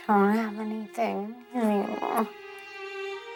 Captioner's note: groans